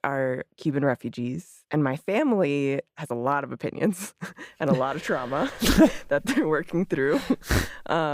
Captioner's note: laughs